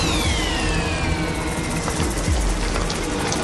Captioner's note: съскане